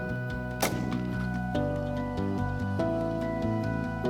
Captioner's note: gun shot